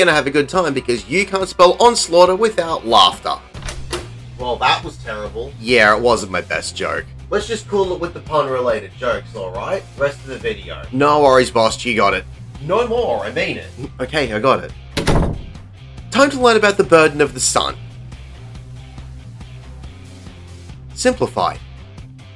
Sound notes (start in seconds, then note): 3.5 door opens; 14.9 door closes